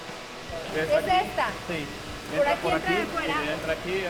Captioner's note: both speaking Spanish